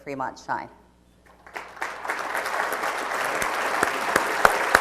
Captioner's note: applause